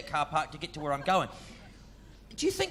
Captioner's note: audience members laughing